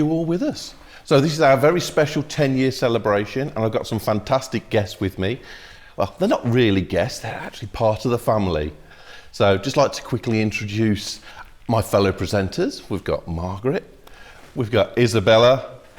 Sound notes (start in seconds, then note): none